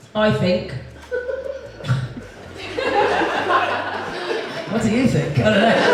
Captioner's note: audience Laughs